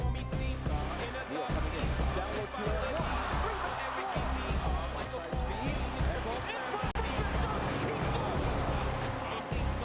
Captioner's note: cheering